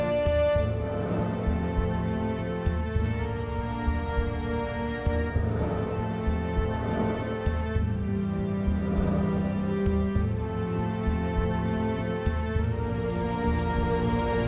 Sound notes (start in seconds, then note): 9.1 footsteps